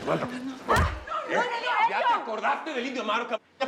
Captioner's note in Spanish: puñetazo; exclamaciones